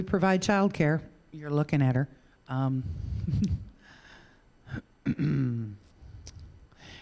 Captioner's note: giggling